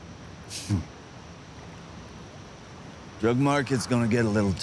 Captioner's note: Ross scoffs